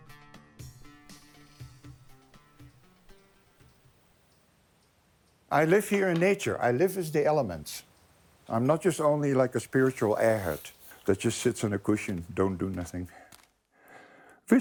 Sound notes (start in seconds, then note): 4.3 bird chirping